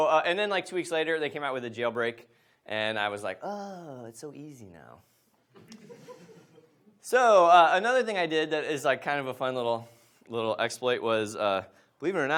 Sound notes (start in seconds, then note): 5.6 audience laughs